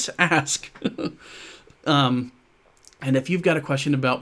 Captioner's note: laughs